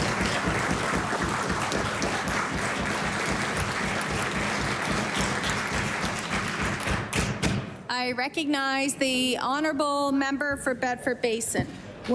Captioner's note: applause